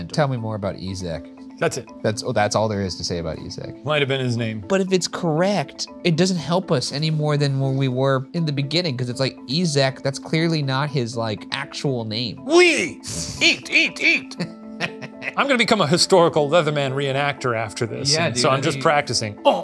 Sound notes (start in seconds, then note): 14.6 laughing